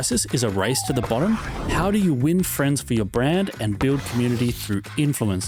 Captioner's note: people cheering